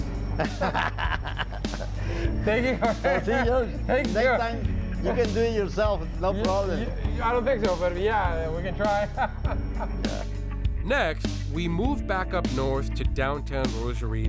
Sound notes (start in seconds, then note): 0.3 laughs; 8.4 laughs